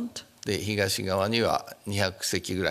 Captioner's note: speaking japanese